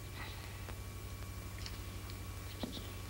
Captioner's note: exhales